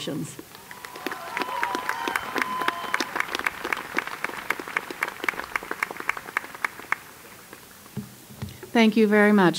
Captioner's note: applause